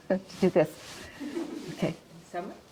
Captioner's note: audience chuckles